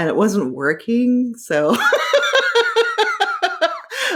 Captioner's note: laughing